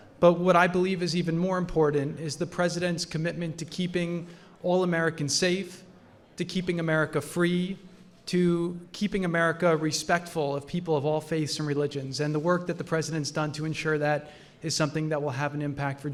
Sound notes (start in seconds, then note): none